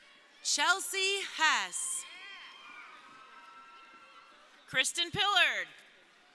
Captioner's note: crowd cheering